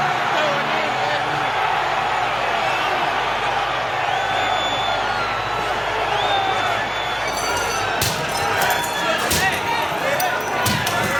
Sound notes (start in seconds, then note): 0.2 shouting; 7.2 glass breaking